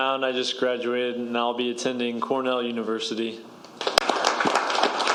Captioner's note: applause